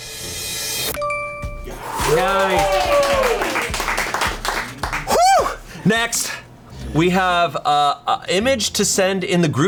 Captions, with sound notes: (colleagues applauding) Woo, next we have a image to send in the group chat.